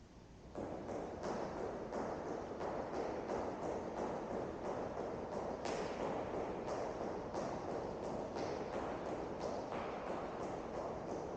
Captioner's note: rapid stomping reverberates